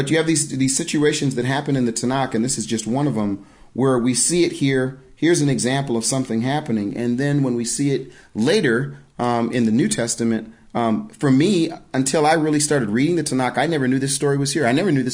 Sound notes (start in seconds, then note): none